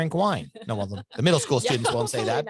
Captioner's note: laughs